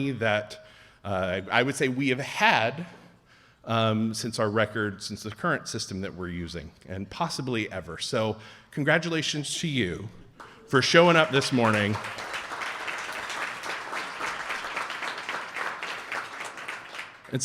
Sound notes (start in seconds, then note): 12.3 audience applauding